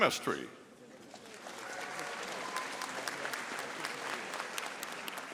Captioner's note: audience applauding